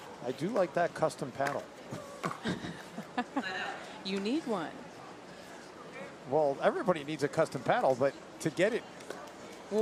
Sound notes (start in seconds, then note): 1.9 laughs